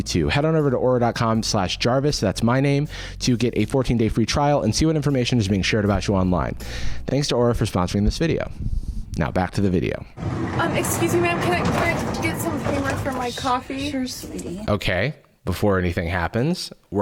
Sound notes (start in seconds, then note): none